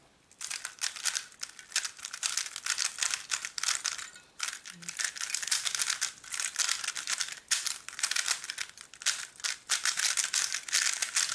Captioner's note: cube noise